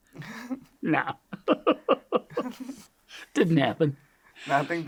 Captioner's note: laughs